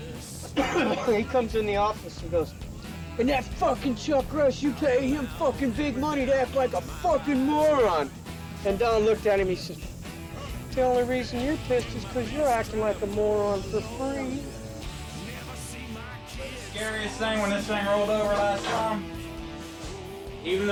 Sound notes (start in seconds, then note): 0.2 coughs